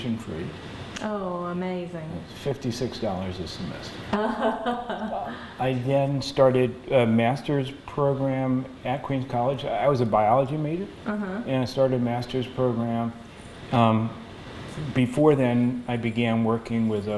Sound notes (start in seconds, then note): 4.1 laughter